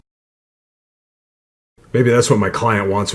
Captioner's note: silence